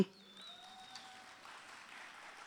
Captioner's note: audience cheering; audience applauding